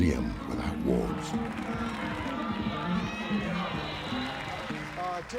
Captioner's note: cheers and announcer on loudspeaker